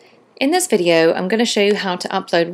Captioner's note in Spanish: Voz en off